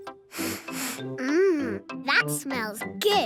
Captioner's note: sniffs